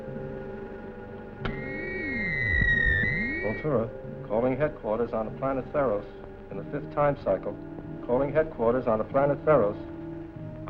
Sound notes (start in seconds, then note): 1.5 squealing